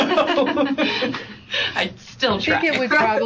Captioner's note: laughter